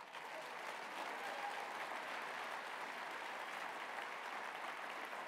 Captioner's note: applause